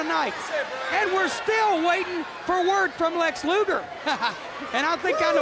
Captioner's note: laughs